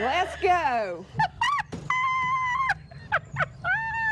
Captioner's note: laughing